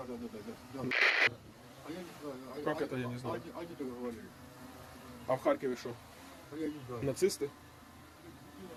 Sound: interrogating a POW in Russian

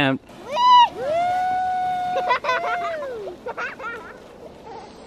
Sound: cheering and laughing

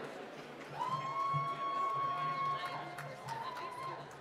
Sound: applause

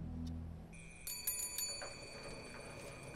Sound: cycle bell rings

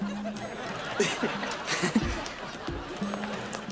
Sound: chuckles

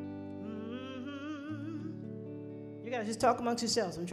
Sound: humming

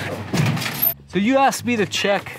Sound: door squeaks

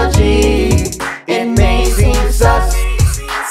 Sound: none

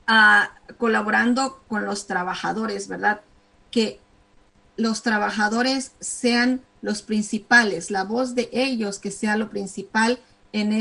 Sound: speaking spanish

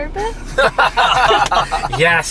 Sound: laughter

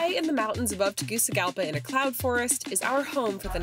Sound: speaking in foreign language

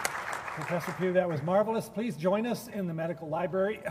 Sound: applause

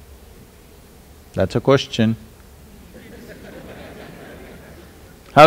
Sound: laughter

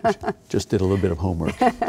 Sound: laughing

